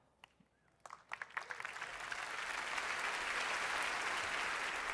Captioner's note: audience applauding